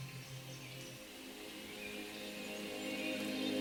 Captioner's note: birds chirping